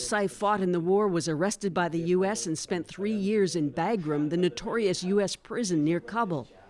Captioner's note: speaking Foreign Language